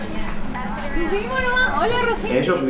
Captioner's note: speaking Spanish